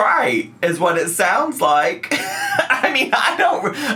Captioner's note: laughs